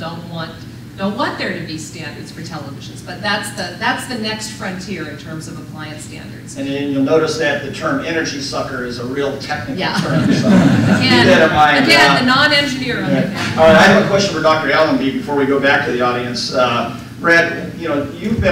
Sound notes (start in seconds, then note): 12.9 laughter